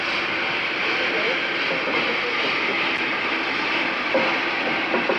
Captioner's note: train arriving